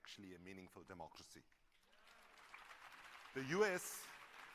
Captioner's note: applause